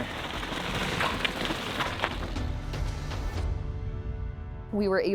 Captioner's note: bike tires scraping on stones